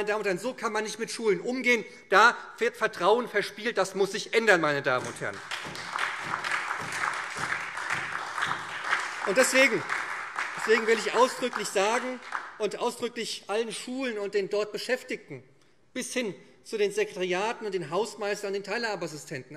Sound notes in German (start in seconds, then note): 5.0 Beifall